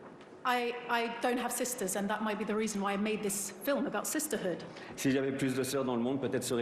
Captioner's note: speaking french